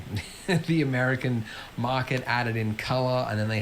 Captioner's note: laughs